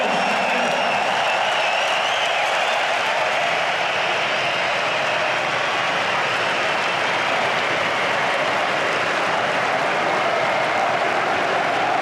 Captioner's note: applause